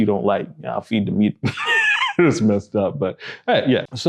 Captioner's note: laughs